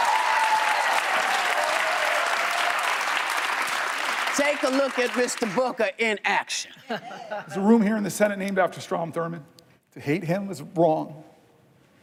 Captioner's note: cheers and applause